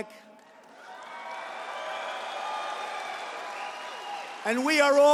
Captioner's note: applause